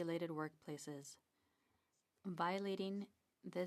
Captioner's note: speaking French